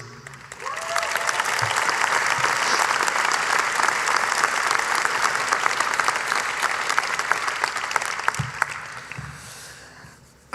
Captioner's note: applause